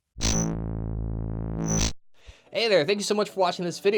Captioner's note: buzzing